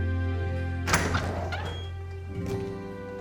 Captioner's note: door opens